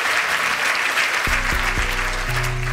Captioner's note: applause